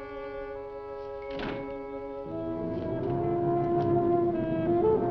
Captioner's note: slow dramatic music; door thudding; slow dramatic music